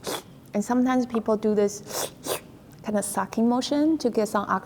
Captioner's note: slurping; slurps